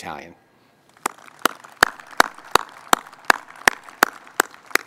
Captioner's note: crowd applauding